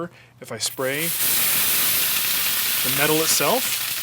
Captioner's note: sizzling